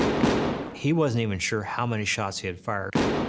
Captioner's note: gunshots